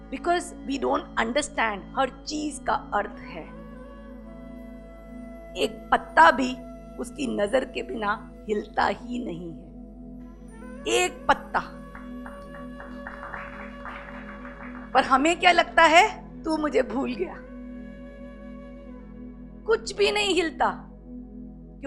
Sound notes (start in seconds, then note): 11.8 audience claps